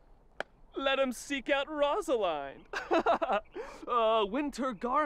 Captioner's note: laughing